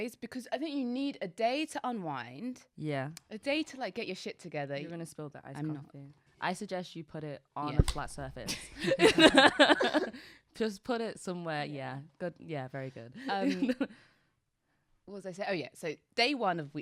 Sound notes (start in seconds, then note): 8.8 laughs; 13.2 chuckles